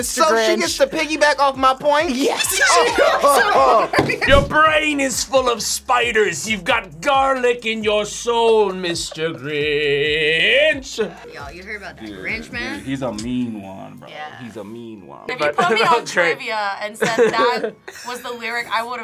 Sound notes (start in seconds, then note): 2.4 group laughs